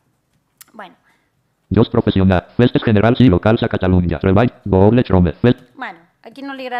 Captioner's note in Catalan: veu robòtica